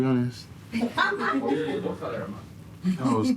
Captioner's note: laughing